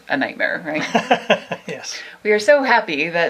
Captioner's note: he laughs